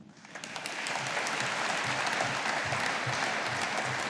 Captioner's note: audience applauding